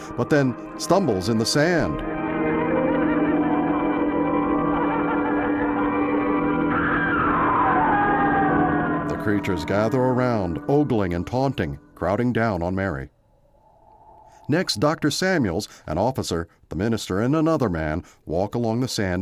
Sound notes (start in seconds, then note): 6.7 screams; 11.7 wind whistling